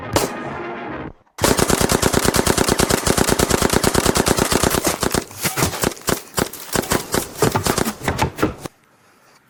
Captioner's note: gunshot noises